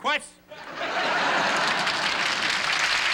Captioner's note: laughter; applause